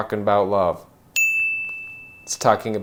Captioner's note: bell rings